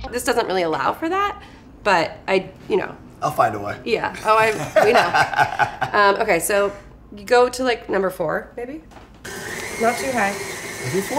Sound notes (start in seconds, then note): 4.2 laughs; 9.2 beater whizzes